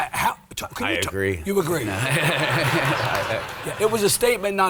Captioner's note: audience laughs